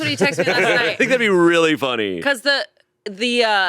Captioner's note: all laughing